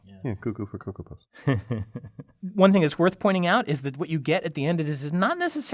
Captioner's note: laugh